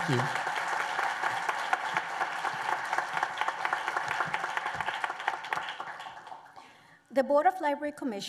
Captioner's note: applause